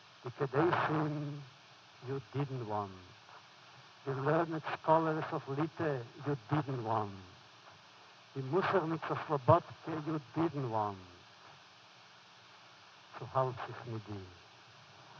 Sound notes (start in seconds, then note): 8.4 foreign language; 13.1 foreign language